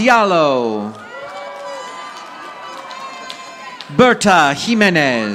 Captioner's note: audience applauding